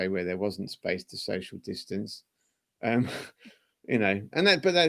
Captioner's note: laughter